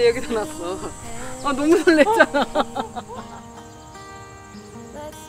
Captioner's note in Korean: 웃음